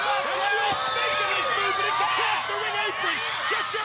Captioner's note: presenter speaking faintly off mic